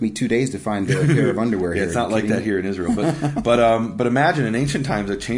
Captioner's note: laughing